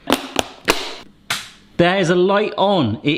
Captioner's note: plastic snapping